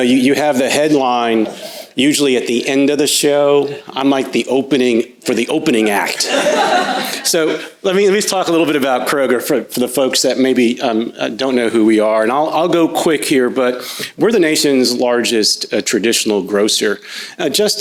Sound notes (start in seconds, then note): 6.2 crowd laughs